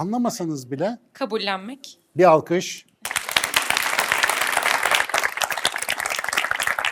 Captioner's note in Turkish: alkış